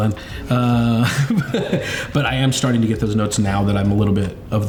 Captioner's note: laughs